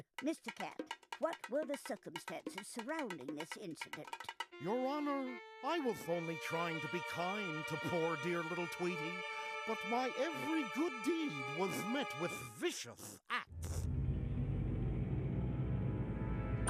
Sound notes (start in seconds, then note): none